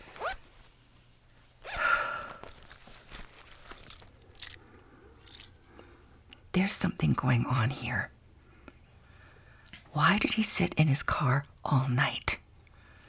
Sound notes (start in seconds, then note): 0.3 keys jingle and jacket unzips; 6.8 whispering